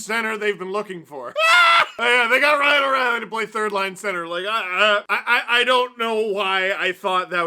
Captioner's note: laugh